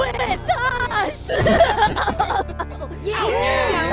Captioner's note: springy glitches and coughs; Uninvitationals cheer